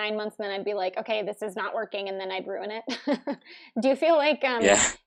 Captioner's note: laughs